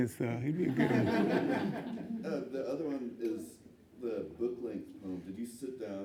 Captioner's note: laughs